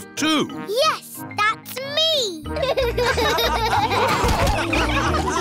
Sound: all laughing

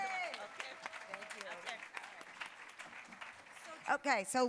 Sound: applause

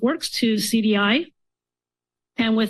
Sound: pause

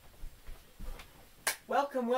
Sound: clap

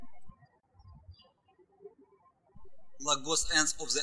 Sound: birds chirping

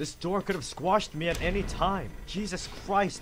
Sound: door slams closed

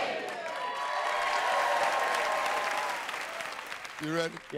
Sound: cheers and applause

